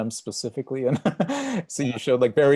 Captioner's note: laughs